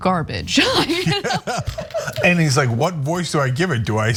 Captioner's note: laugh